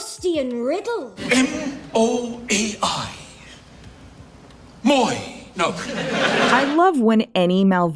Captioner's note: audience Laughter